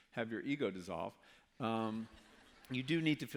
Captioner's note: laughter